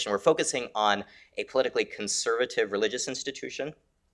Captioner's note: none